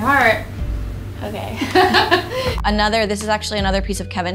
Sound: laughs

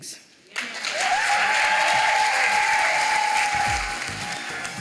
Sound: applause

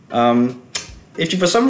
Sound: lip smack

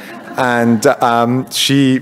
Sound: all laughing

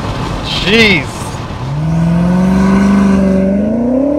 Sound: car speeding

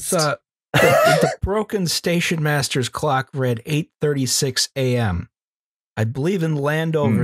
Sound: laughs

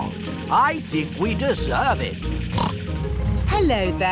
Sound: snorts

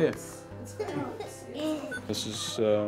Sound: child laughs

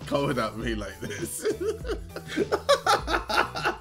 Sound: laughs

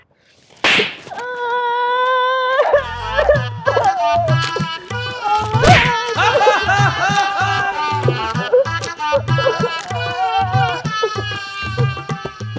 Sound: crying

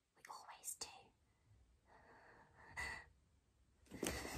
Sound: chuckles

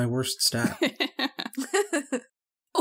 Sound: laugh

